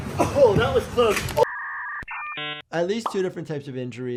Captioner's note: old school dial up sounds